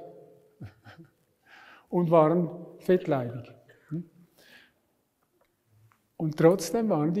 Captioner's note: laughs